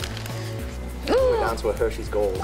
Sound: gasps

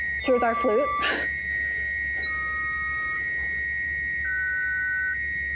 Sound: whistling

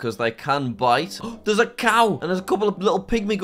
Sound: gasps

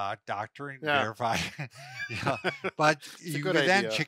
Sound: laughs

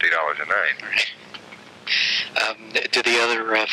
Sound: laughing

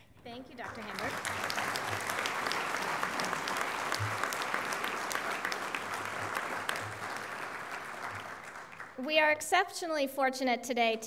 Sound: applause

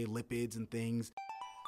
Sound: chime

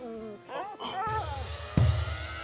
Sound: dog whines

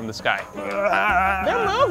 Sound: struggling sounds

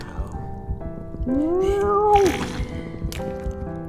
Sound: cat meows; farts; sad piano music

